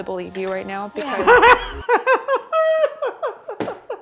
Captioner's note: laughing